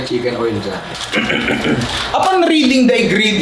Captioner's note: clears throat